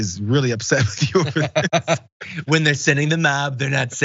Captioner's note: laugh